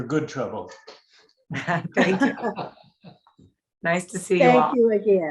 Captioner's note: laughter